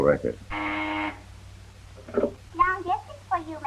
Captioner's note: buzzer rings